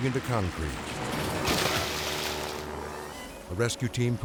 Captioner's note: water splashing